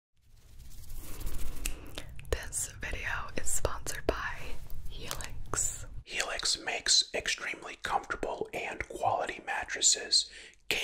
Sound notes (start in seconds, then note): 0.2 fingers rustling